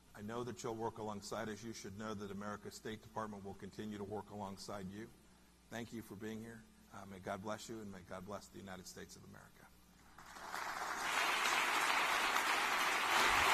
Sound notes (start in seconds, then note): 10.0 applause